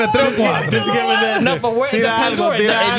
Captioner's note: laughing